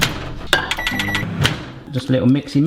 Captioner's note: microwave buttons beeping